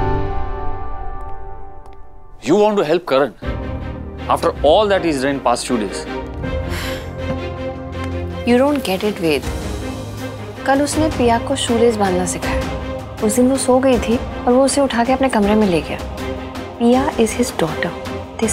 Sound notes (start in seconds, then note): 6.6 Tipsy exhales